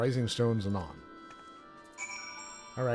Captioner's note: bell ringing